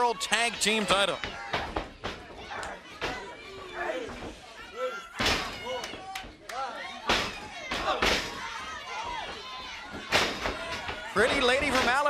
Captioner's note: crowd chatter